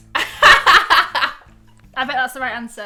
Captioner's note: laughing